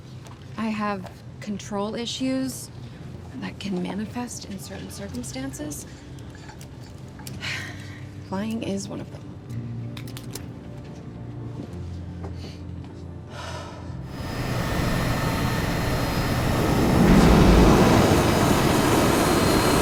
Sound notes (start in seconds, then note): 13.1 sighing heavily